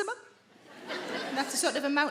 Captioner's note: audience laughing